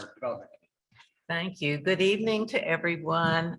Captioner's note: pat